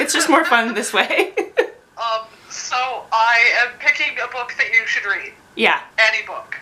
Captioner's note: laughs